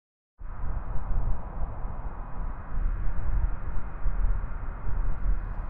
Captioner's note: wind